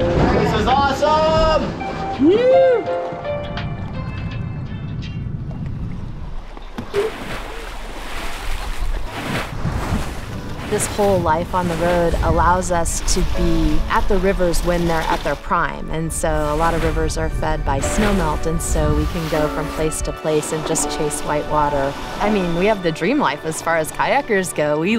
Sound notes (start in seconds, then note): 2.2 yells excitedly; 6.5 water splashing